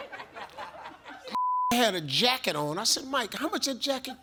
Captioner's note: audience laughs; beep